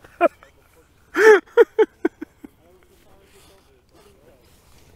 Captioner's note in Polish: śmiech